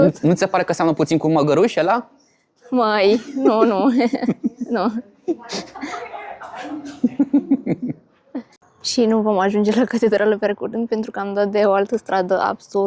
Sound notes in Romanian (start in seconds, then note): 5.3 Râsete